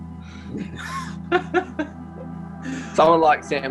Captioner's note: laughs